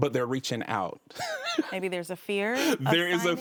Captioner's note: laughs